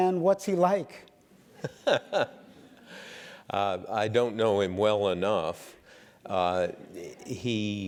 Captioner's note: laugh